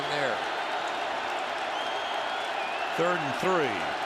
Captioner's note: cheering